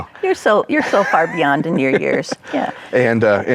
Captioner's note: laughs